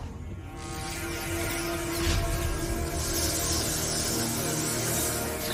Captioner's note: electricity crackling